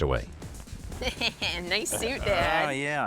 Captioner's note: laughing